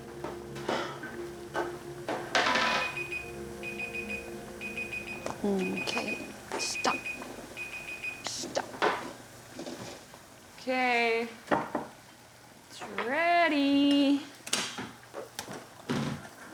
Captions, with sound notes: [alarm ringing] Okay. Stop. Stop. Okay. It's ready.